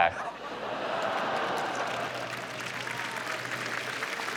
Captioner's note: applause